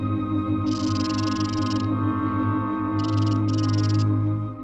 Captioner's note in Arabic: صوت خشخشة الثعبان